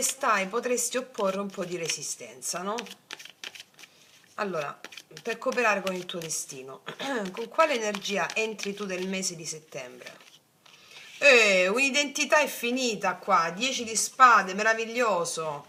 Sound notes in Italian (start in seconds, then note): 6.9 schiarire la voce